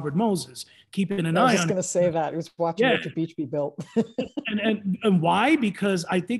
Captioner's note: laughs